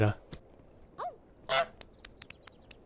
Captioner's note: honk